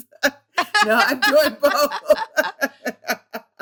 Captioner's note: laughter